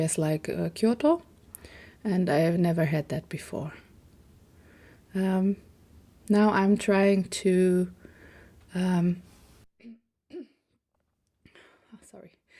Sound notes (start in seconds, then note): 10.3 cough